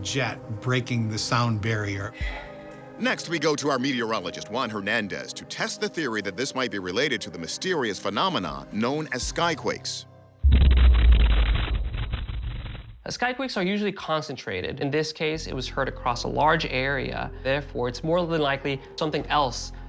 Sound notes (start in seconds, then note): 10.4 thunderous boom